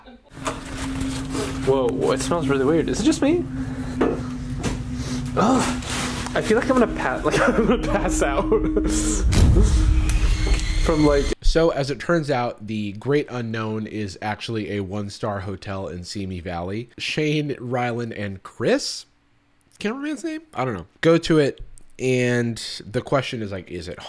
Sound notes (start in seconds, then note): 0.0 laughs; 7.2 laughs